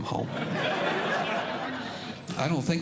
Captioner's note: audience Laughing